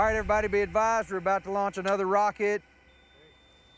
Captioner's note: high-pitched beeping